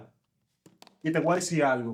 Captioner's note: speaking In Foreign Language